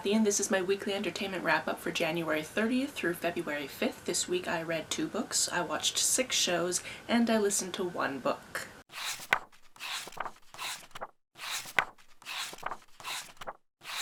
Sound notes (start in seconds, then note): 8.9 pages turning